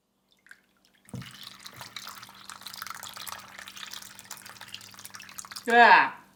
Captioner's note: sloppy pouring sounds